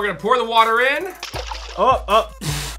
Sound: blowing

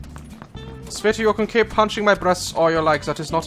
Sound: German accent

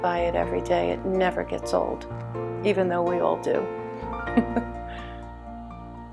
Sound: laughs

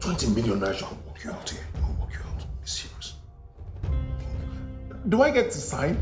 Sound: arguing in whispers

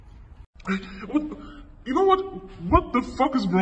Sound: stuttering

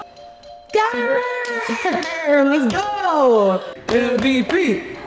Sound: laughing

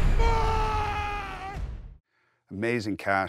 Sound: screaming

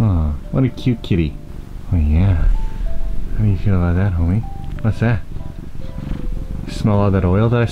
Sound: purrr

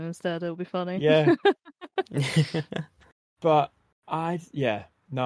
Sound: laughs

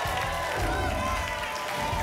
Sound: applause and cheering cont; whoosh

